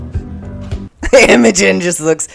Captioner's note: laughter